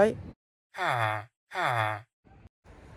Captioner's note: villager noises